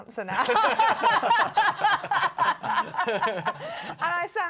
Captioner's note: laughter